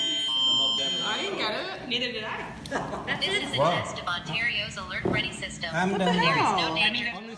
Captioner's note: alarm sounding on phones